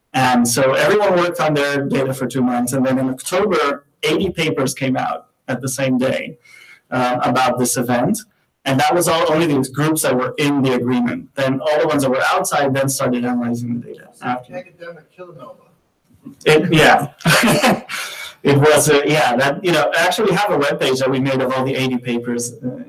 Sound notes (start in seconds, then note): 16.3 laughs